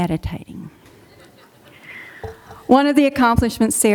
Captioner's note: audience laughing